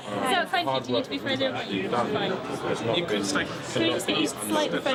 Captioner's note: reporters chattering